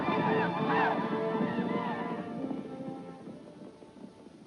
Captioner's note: Grito apache